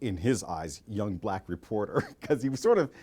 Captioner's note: laughing